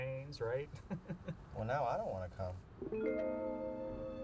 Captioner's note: chuckles